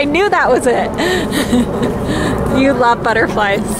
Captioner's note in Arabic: تضحك